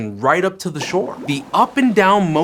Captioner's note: squeaks squeaks